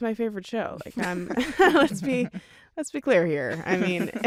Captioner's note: chuckles